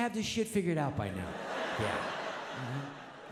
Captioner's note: audience laughs